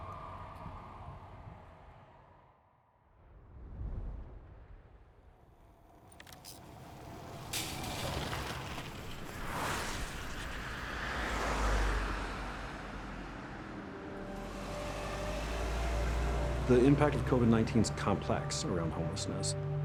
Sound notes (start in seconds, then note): 0.1 siren wailing; 7.4 city traffic bustling; 13.1 solemn music begins